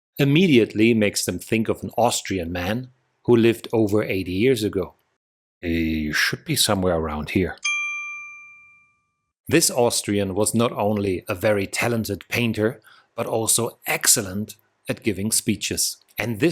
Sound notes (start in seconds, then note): 7.6 bell